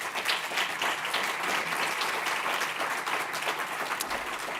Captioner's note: audience applauding